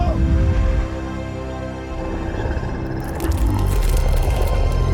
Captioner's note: Michael screaming